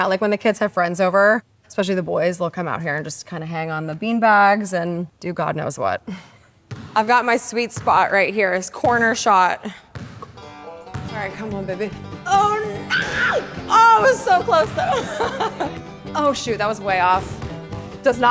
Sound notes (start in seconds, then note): 10.4 lively banjo music; 14.6 rim thuds; 14.6 laughs